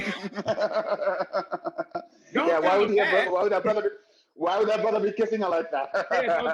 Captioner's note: both laughing